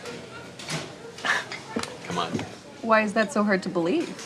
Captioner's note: scoffs